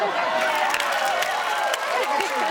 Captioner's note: everyone laughs; everyone applauds